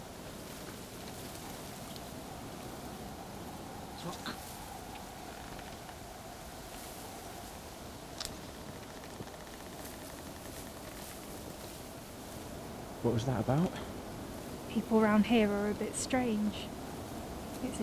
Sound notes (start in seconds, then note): 2.9 leaves rustle; 9.2 wind blows